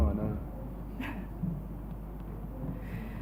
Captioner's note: laughs